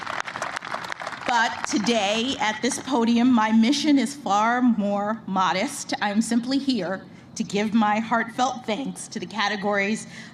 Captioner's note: applause